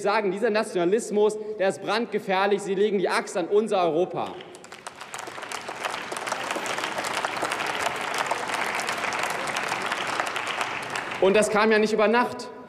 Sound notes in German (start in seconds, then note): 4.2 Beifall